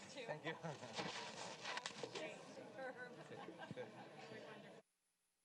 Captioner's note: speaking faintly